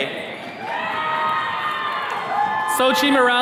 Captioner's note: attendees cheering